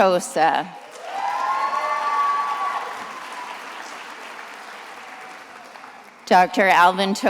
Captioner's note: attendees applauding and cheering